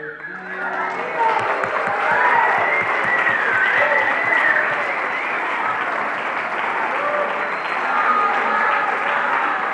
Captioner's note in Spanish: Aplausos